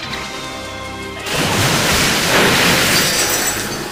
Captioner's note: splashing